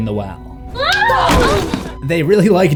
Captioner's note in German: Schrei, Körperschlag